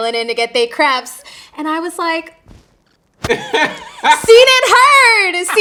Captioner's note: interviewer laughing